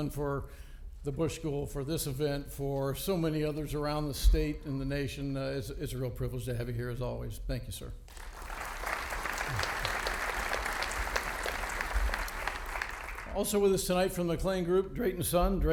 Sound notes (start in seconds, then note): 8.1 audience applauding